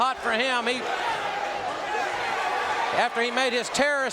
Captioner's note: audience cheering